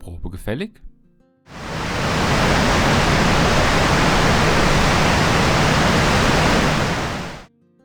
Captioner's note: loud sound of water